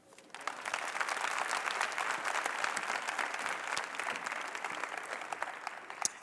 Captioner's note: applause